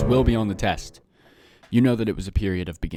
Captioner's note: sigh